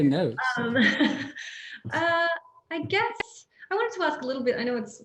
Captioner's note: chuckles